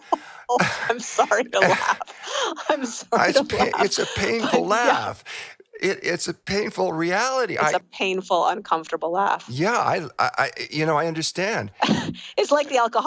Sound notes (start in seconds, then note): 5.0 laughs